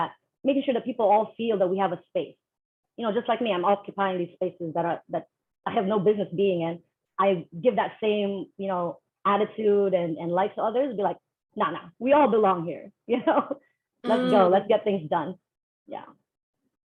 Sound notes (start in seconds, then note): 12.9 laughter